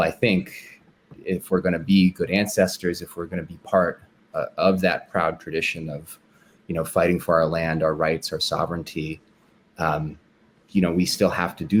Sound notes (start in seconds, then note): none